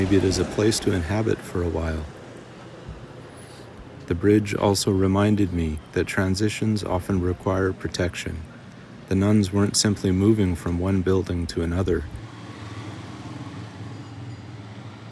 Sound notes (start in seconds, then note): 2.0 wind howling